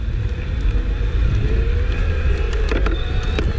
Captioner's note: motor whirring